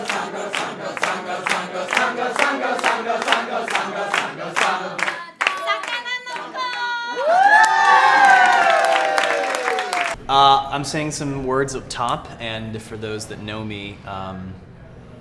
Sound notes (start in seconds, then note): 4.5 cheering